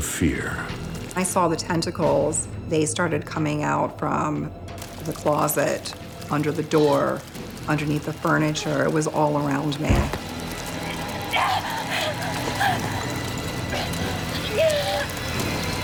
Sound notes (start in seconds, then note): 11.4 panting